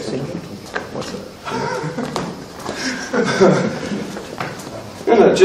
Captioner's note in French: Légers rires